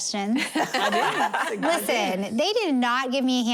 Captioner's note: laughter